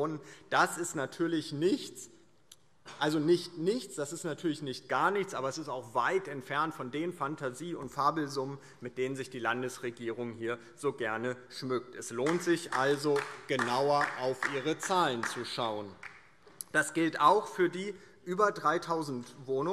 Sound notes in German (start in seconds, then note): 15.4 Beifall DIE LINKE